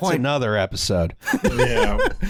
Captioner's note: laughter